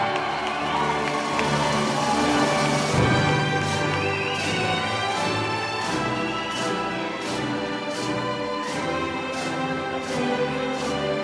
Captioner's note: applause